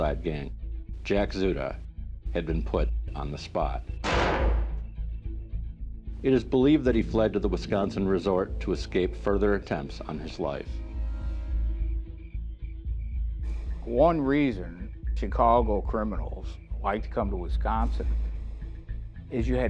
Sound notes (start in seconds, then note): 4.0 gunshot booming; 11.8 sinister music